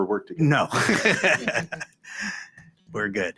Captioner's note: chuckles